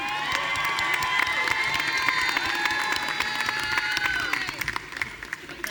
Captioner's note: audience cheering and applauding